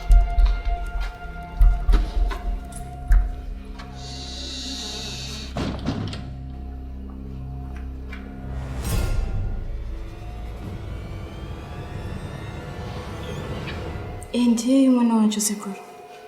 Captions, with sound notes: [Door creaks and closes] [ominous music] Is this the child? - -Yes Uncle, this is the child